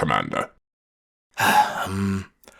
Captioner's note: sighs